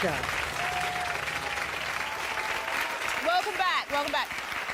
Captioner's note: audience applauding